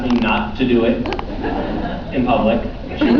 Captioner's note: laughs